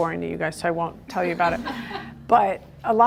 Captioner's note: group laughter